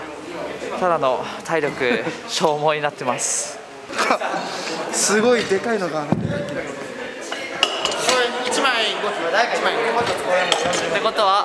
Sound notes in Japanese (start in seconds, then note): 6.7 ウェイトを床に置く音